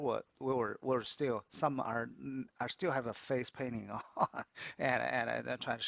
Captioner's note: laughs